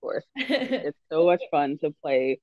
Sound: laughs

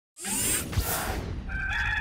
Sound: electronic sounds buzzing; rooster crowing

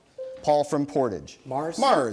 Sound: bell dings

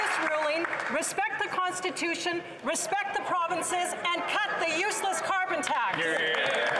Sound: some Applause

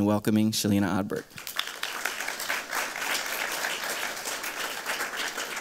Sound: applause

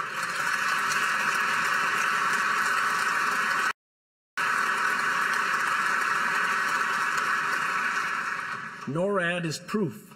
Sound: applause

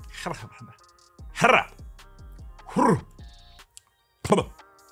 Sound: making silly mouth noises

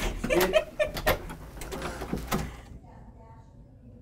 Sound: laughs; door opens

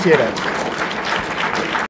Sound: audience applauds

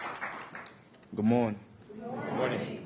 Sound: applause

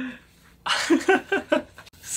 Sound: laughs

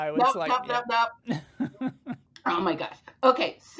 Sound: chuckling

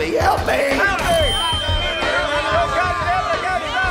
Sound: microphone feedback

